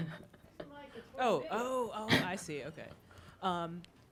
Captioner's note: laughing; woman yelling